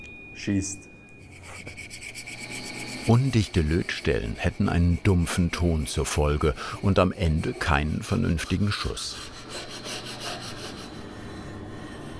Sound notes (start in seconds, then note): 1.2 rubbing